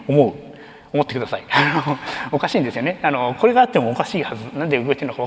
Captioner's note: chuckles